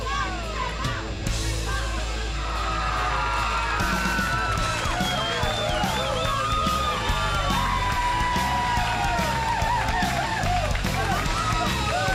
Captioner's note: crowd cheering